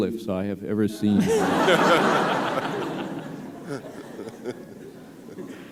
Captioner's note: laughter